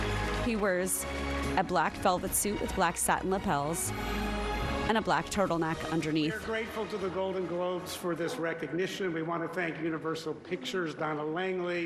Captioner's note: applause